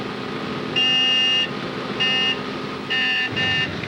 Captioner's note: bus honking